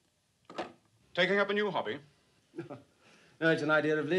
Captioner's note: john chuckling